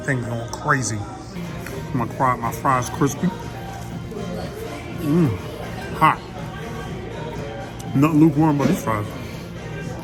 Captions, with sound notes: Things are going crazy. My fry's crispy. (fry crunching) Mmh, hot. Nothing lukewarm about these fries.